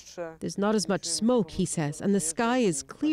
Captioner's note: speaking russian